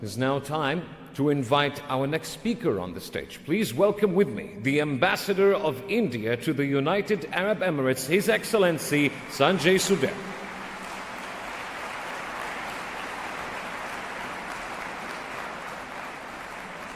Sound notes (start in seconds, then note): 10.5 applause